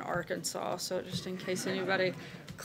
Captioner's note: laughter